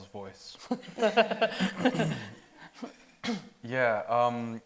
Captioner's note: audience laughing